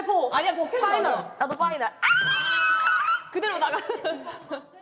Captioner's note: 꺄아아